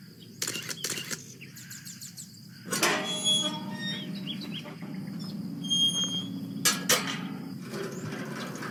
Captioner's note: snapping a photo, opening an iron gate fx